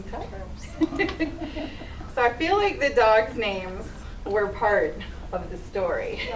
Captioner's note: laughs